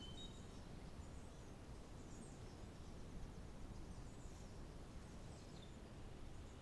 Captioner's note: birds chirping